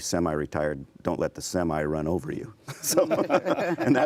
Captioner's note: laughing